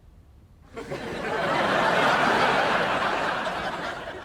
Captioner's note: audience laughs